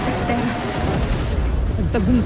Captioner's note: fire blasting